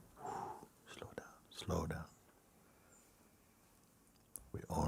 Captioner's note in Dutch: blaast uit